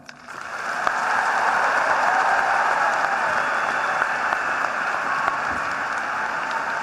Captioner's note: applause